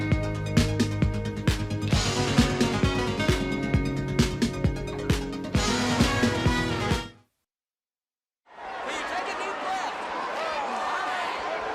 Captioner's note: crowd cheering